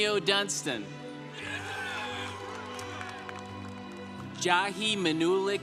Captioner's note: congregation applauding